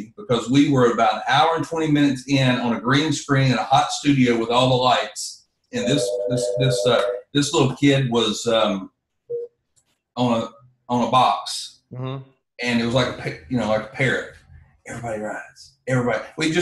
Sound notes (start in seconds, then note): 5.8 phone rings